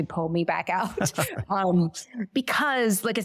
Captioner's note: both laugh